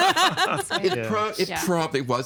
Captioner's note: all laughing